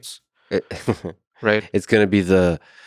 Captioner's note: Lex laughing